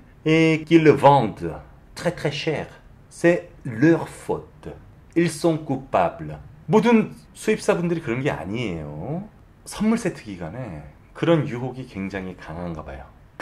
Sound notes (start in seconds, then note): 6.7 Korean